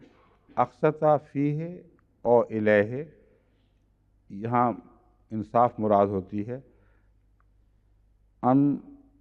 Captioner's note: Arabic